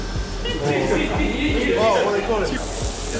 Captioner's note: laughter